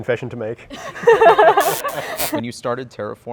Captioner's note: all laugh